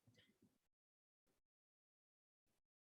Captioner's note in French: silence